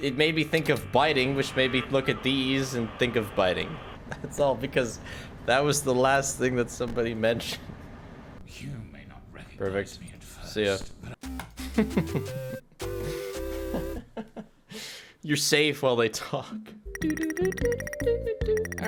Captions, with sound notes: It made me think of biting which made me look at these and think of biting. That's all because that was the last thing that somebody mentioned. Perfect. See ya. (Laughs) You're safe while they talk. Dodododo do do do!